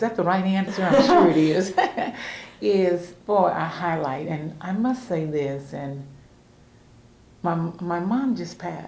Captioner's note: laughter